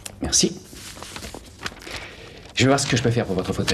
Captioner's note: sighs